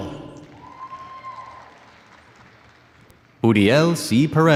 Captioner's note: audience cheers and applauds